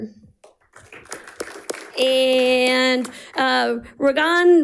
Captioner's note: audience applauding